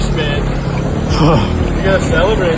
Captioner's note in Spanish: suspira